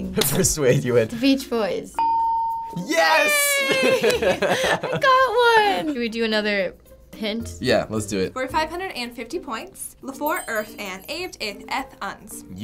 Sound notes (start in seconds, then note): 2.0 ding